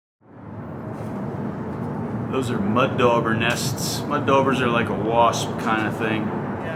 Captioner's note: car noise